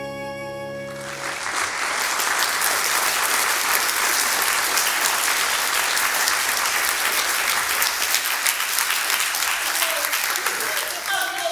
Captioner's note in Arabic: توقف الموسيقى. تصفيق